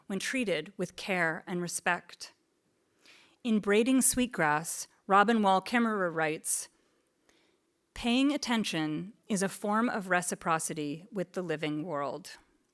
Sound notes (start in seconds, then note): none